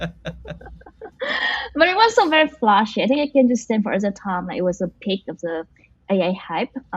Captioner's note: laughs